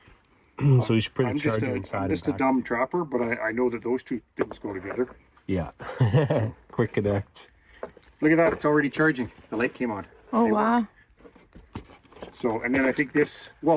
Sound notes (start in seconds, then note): 5.8 laughs